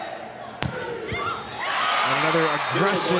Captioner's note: ball thumping; audience cheering